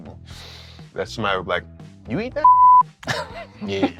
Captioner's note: beep; laughter